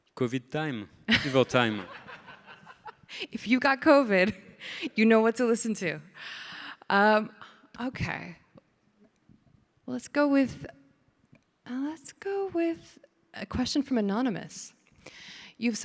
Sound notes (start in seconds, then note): 1.2 everybody laughing; 4.4 laughs